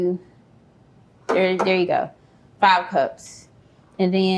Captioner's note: taps object